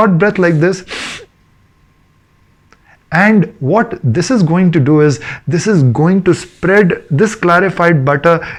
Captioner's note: sniff